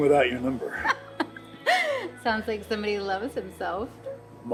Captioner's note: laughs